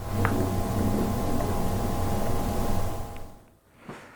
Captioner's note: footsteps tapping